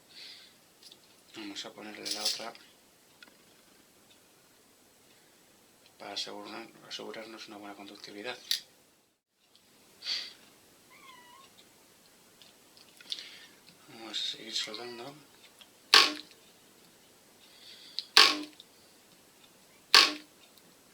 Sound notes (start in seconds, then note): 14.8 cat meows